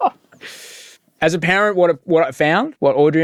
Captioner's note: laughing